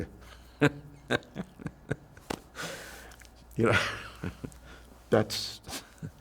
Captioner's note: laughing